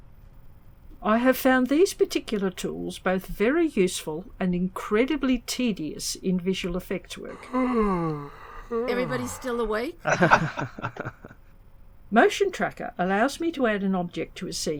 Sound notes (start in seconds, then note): 7.2 yawning; 10.0 laughter